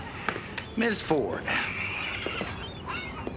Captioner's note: sighing